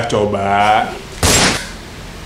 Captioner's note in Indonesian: Suara Tembakan